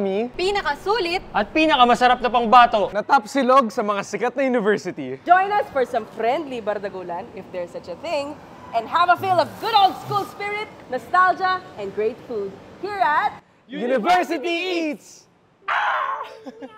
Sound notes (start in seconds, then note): 15.6 mimics hawk cry